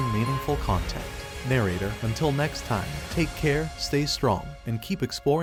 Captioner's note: voiceover